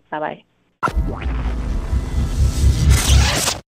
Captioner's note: tech sounds